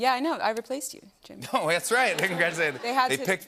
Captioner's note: laughter